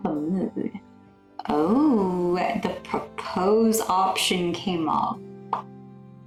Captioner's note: lip pop